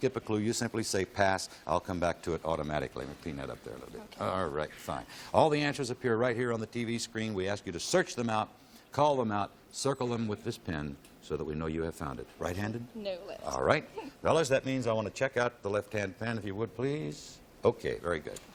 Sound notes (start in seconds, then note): none